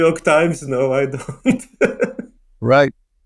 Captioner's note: chuckling